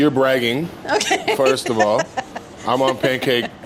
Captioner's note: laughs